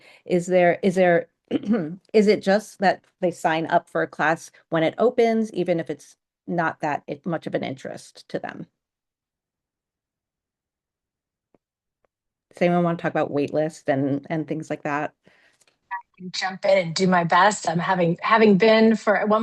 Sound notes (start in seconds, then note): 1.3 clears throat